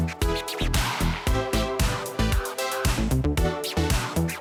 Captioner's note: energetic upbeat music continues; tape screeching